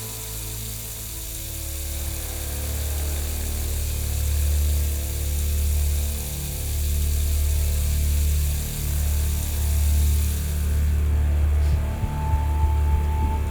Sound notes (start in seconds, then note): 4.2 running water; 11.4 the music builds again